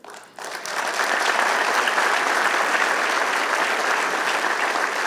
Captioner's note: applause